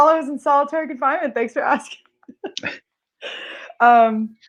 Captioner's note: laughs